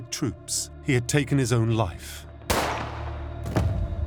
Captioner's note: gunshot